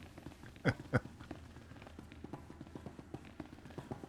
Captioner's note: laughs